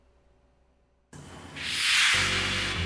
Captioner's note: whoosh